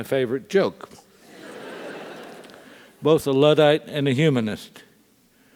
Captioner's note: laugh